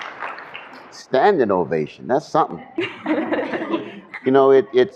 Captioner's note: laughter